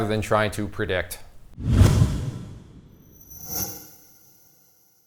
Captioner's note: intensifying swooshes